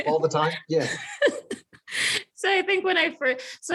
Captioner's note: laughs